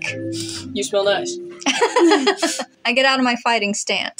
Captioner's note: laugh; snicker